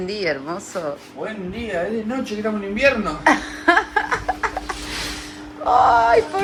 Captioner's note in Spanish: risas